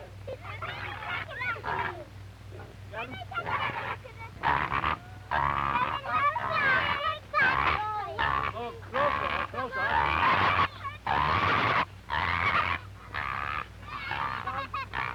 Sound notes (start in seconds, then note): 3.9 pigs grunting